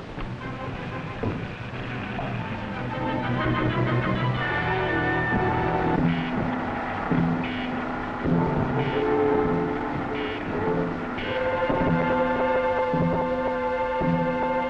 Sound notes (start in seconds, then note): 4.8 mechanical sounds; 11.6 orchestral music